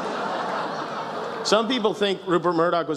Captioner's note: laughter